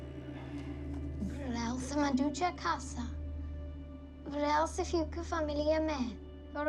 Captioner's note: Mya speaking in foreign language